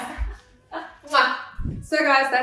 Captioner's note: laughing; kissing air